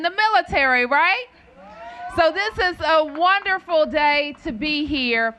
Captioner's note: cheers and applause